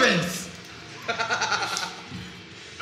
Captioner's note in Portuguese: Risadas